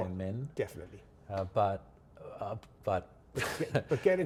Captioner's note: chuckles